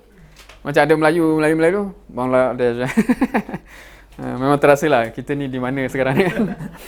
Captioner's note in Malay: ketawa